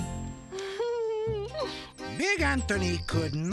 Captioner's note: giggling